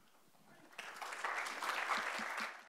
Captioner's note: audience applauds